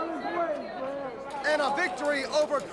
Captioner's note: crowd chatter